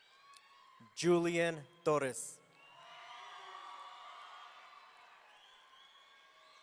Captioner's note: audience cheering